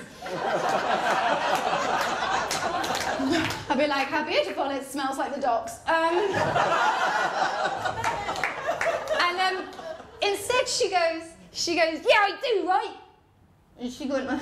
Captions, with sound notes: [LAUGHTER & APPLAUSE] I’d be like, ‘How beautiful, it smells like the docks.’ [LAUGHTER] And… instead she goes, ‘Yeah, I do, right.’